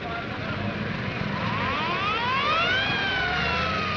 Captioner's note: siren wailing